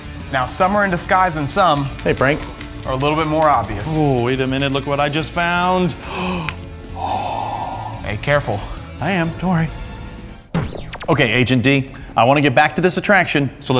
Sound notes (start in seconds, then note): 5.9 gasping; 10.2 neuralyzer zaps